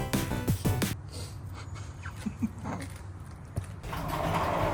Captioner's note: laughs